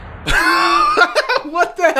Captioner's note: laughs